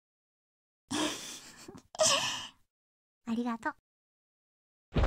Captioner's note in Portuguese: risos